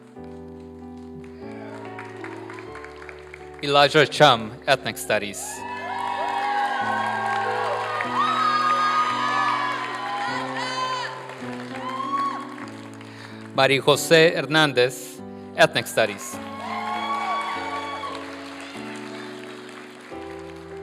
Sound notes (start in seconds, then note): 0.0 applause and cheering; 1.7 applause; 5.7 applause and cheering; 16.0 applause